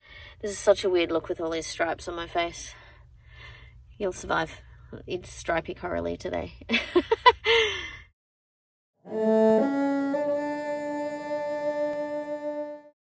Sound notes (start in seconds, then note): 6.8 chuckles; 9.0 three ascending cello notes, ending with a sightly clumsy vibrato